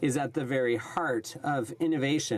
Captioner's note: speaking French